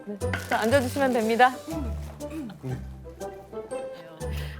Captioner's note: successfully sits down with a rustle